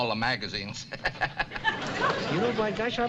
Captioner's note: laughs